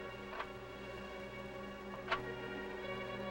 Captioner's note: gun clicks